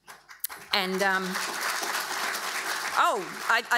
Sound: audience applauding

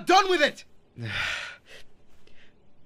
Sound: sigh

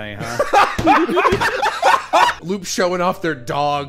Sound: laughter

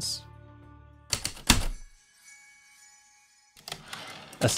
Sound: heavy typewriter keystrokes, light chimes, typewriter return slides

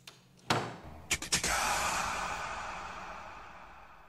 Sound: door slams; quirky noise imitation

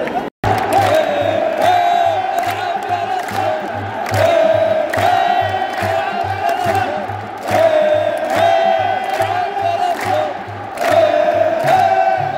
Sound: clap

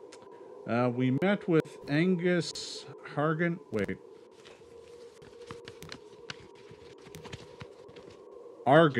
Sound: papers shuffling

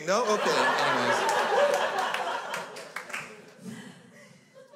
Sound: crowd laughs

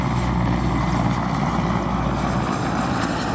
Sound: helicopter fly over

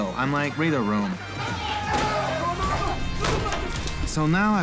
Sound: yelling

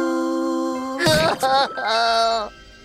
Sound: crying

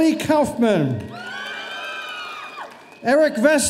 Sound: audience cheering

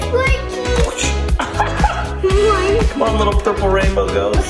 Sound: laughs

